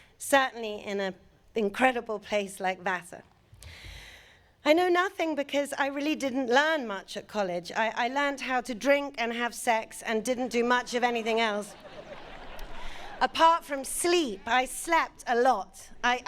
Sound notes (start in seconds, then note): 10.8 audience laughing